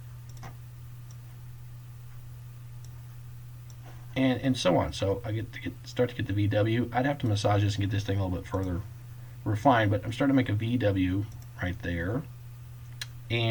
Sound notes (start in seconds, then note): 0.2 clicking; 11.3 click